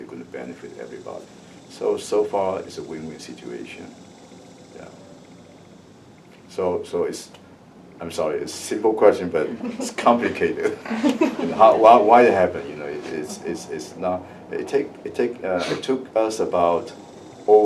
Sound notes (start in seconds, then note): 9.2 laughs